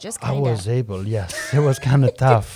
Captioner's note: laughs